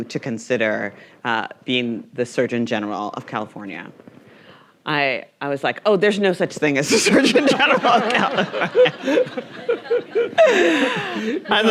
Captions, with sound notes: to consider being the surgeon general of California, I was like, "Oh, there's no such thing "(laughing) as a surgeon general of California." (everyone laughing)